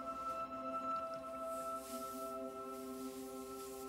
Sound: iron hisses

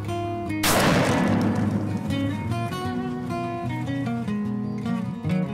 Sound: gunshot

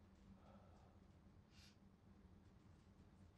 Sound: sniffle

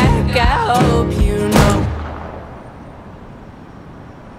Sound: gunshot

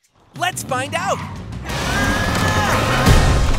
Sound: grunting

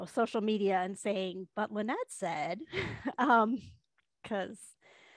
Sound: laughs

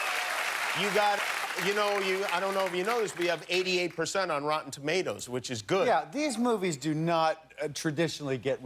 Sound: cheers and applause

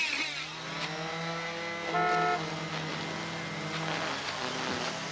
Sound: strimmers whirring; horn honks

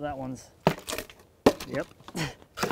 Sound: wood clattering

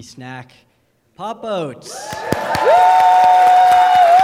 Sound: applause

